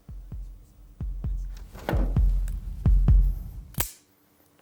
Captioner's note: rising heartbeat; click